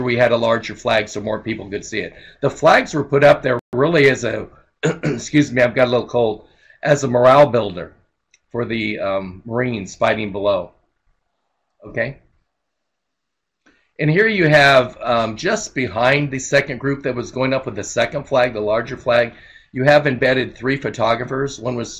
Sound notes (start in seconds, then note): 4.8 coughs